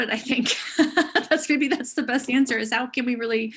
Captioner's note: chuckling